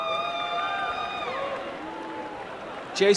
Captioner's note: applause and cheering